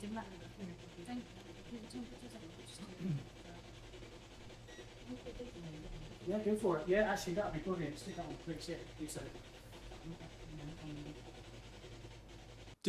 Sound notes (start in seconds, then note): 2.4 investigators chatter; 3.0 clearing throat; 4.6 device beeps; 5.0 investigators murmuring; 10.0 electronic whirring